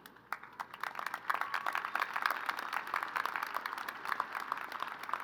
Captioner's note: crowd applauding